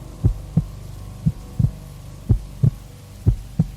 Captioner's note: none